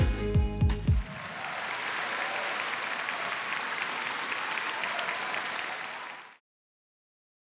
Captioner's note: applause